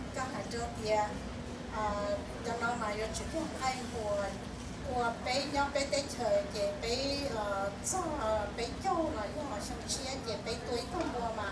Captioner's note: speaking in foreign language